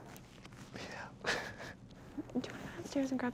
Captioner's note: laughs